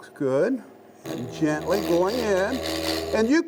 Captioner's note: machine roaring